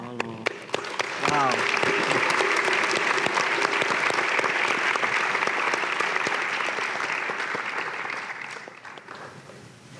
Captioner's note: applause